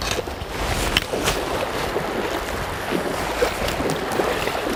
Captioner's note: splashing